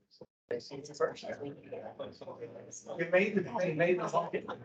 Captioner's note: indistinct chatter